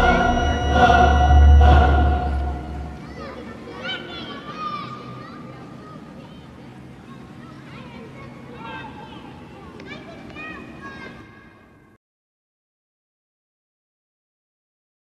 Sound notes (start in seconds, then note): 2.9 children laughing, shouting in distance